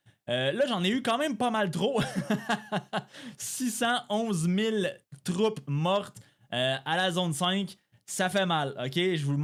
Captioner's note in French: rires